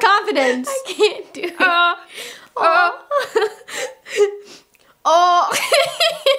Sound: laughs

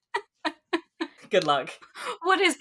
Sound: laughs

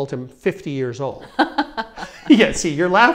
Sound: laughs

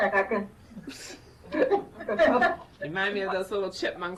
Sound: laughs

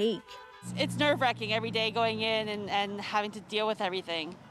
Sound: horns honking

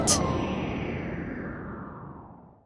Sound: whoosh

